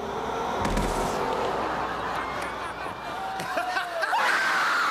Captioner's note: laughter